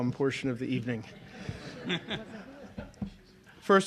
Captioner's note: laughter